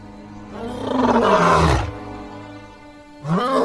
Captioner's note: roaring